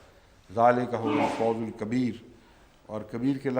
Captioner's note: Arabic